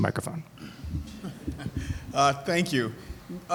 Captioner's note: audience laughing